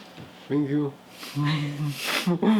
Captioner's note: laughs